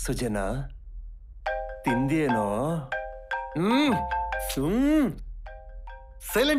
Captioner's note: mobile ringing